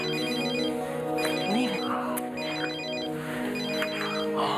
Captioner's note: phone ringing